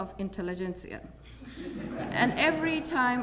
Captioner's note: laugh